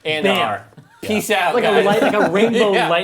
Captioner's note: snaps